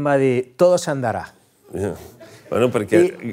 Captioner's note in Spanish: risas